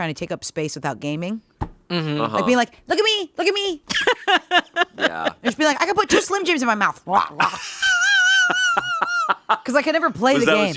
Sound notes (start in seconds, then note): 3.9 laughing; 7.2 gobbles; 7.4 laughing